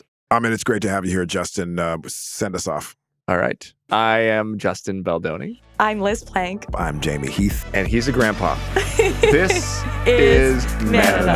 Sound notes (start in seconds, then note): 8.7 laughing